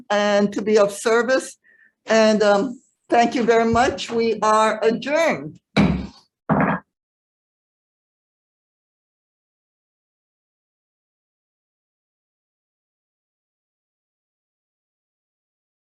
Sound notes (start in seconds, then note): 6.4 gavel pounding